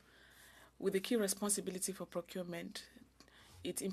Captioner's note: speaking French